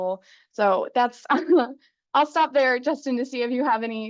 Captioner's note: chuckles